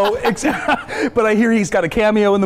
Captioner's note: laughing